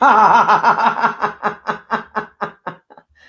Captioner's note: laughing